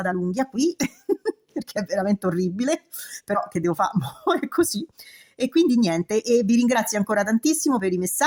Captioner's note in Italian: risate